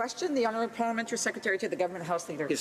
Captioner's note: none